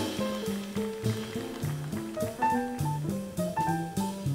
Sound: audience applauds

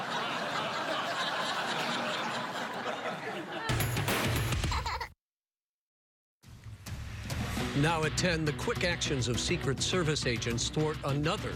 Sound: laughs maniacally

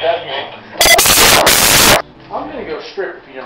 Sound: loud incoherent screaming

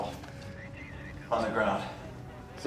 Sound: police radio chatter

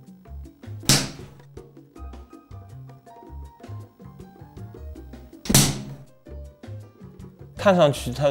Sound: slapping sound

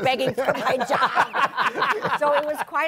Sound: laughter

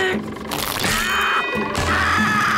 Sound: groaning; screaming

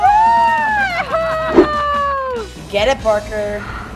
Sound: laughing loudly

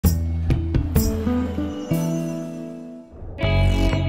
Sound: whooshing

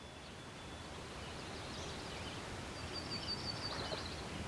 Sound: birds chirping

